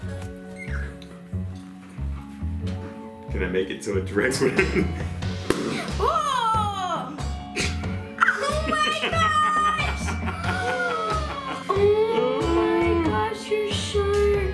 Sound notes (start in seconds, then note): 0.2 mysterious music; 5.4 balloon pops; 10.4 gasping; 10.4 laughing